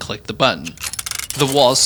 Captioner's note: mechanics clicking